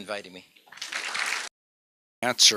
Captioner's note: applause